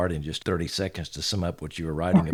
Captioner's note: laughs